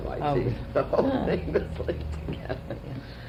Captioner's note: laughter